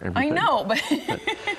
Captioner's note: laughs